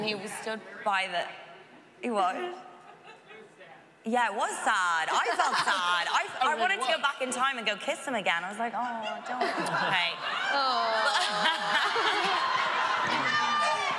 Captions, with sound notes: And he was stood by the-- What? -It was sad. -Yeah. It was sad. I felt sad. I wanted to go back in time and go kiss him again. I was like, "Oh, don't." -Oh. -[laughing] [audience cheering]